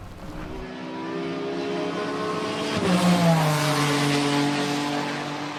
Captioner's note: 🏎️ Sifting Gears & Racing 🏁; squealing The Tires 🛞